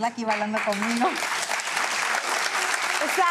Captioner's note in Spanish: Aplausos